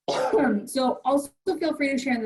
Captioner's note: coughs